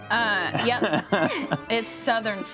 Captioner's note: laughs